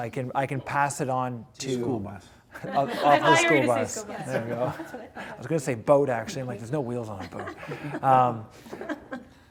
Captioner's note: laughing